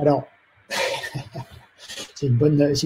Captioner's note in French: Rire